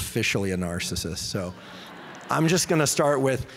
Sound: audience laughing

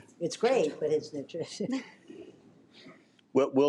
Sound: laughs

